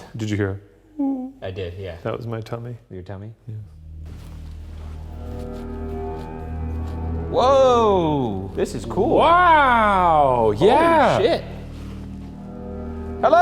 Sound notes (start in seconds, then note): 3.8 footsteps padding; 4.0 gentle ominous music